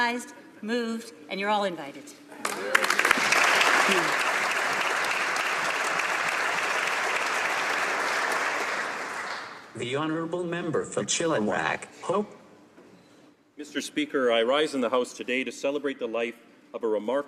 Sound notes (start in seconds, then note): 7.1 applause